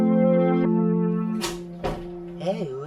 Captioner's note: door opens and closes